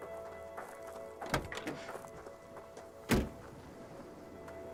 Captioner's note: door clattering